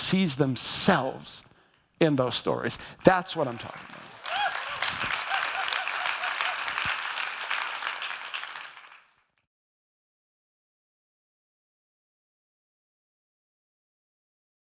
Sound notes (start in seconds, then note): 5.4 audience applauds